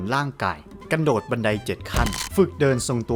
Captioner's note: legs crushing